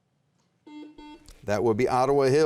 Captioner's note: buzzer rings